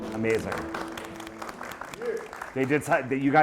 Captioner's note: applause; voiceover